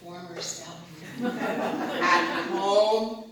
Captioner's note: laughter